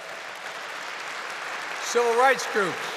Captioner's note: applause